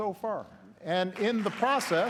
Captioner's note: applause